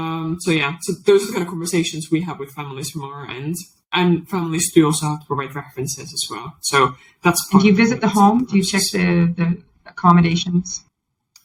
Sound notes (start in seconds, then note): 6.9 faintly speaks